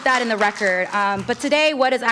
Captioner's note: applause